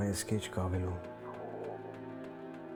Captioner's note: stomach Gurgles